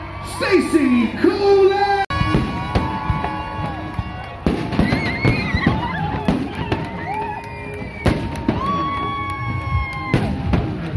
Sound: cheering & fireworks

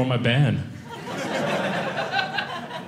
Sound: audience laughing

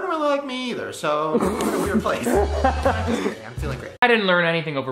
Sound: laughs

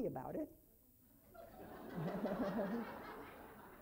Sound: laughing

